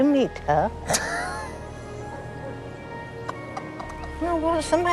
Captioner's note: Ludo laughing